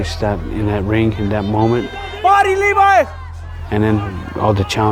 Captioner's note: shouting